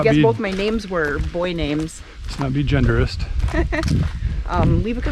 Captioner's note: laugh